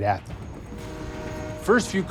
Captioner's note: horn blares